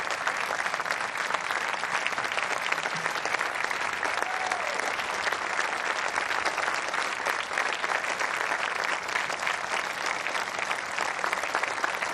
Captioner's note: applause